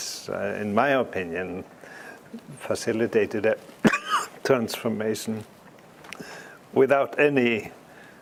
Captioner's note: cough